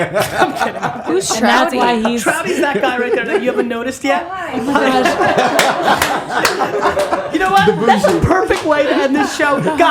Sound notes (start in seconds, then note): 0.0 laughs; 4.4 all laughing